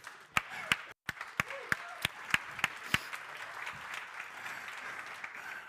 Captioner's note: crowd cheering and applauding